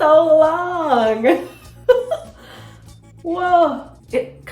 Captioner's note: laughs